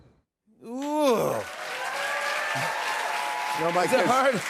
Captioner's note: cheers and applause